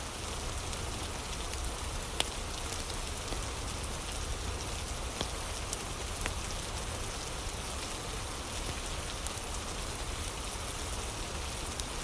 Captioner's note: fire crackling